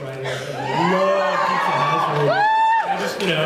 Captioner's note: cheers